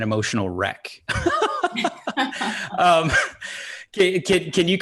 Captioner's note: laughing